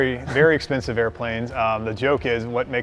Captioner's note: laughs